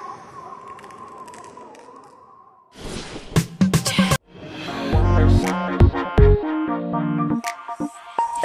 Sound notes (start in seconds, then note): 0.5 ice creaking